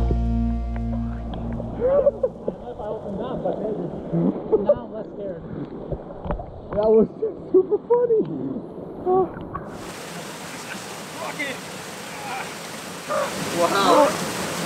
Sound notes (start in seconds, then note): 1.7 laughing; 9.7 waterfall splashing